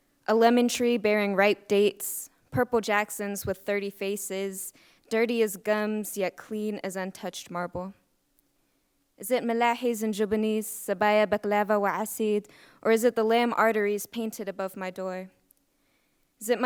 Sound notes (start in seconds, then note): 9.4 speaks in Arabic